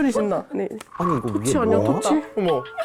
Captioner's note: something appearing SFX